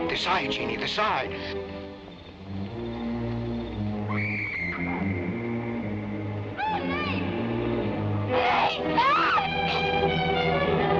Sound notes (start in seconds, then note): 4.2 screams